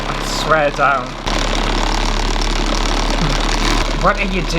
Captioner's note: loud Motor Sounds